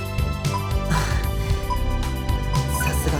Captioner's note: impressed and resigned sigh